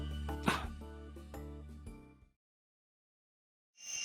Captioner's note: sighing